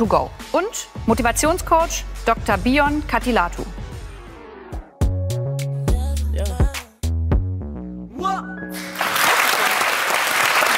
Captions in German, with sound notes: und Motivationscoach Dr. Biyon Kattilathu. (Dynamische Musik) (Applaus)